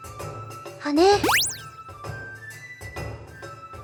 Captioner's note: upward brushstroke